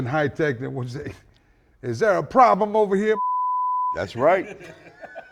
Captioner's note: beep